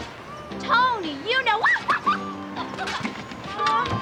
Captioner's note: laughs loftily